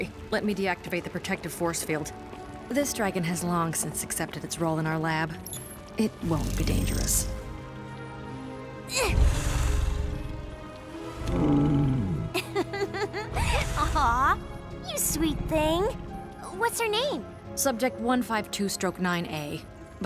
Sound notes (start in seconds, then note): 11.1 dragon growls; 11.9 chuckles